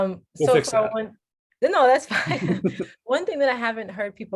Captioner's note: laughter